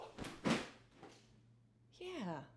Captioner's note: pillow thuds